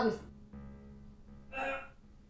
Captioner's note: man growls